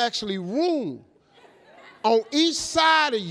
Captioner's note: audience laughing